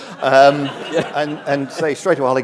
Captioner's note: laughter